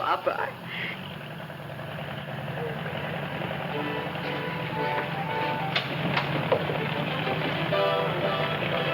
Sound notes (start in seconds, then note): 1.3 engine rumbling; 6.4 soft music